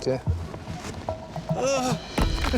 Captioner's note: grunts weakly; both chuckling